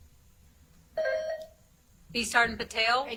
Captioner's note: buzzer chimes